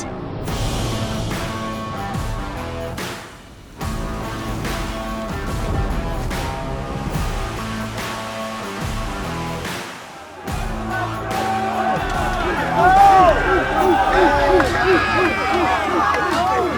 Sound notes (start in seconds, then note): 0.2 upbeat rock music; 7.2 water spraying; 10.6 yelling and chanting